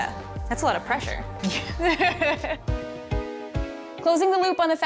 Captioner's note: both laugh